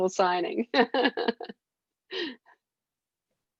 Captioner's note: laughing